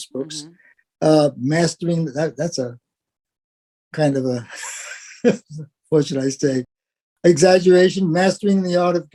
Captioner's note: laugh